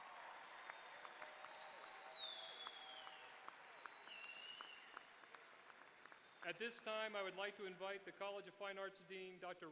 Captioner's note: applause